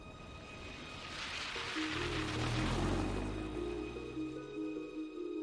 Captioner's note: car engine rumbles